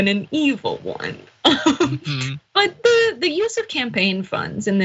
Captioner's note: laugh